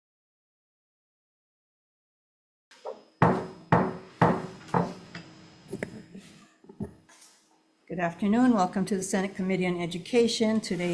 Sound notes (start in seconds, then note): 3.2 gavel tapping